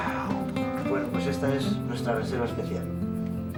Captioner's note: speaks in spanish